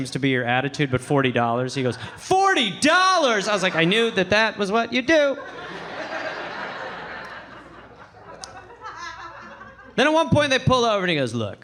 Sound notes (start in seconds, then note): 5.1 audience laughing